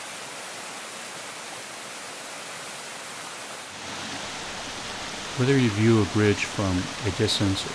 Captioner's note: waterfall sounds